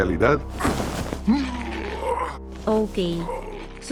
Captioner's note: more grunting